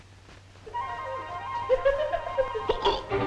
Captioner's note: body thudding; upbeat music; Patsy laughing; Patsy hiccups; dramatic music